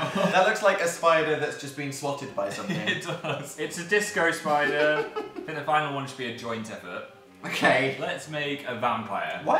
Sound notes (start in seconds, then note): 4.4 giggles; 4.4 laughs; 7.5 laughs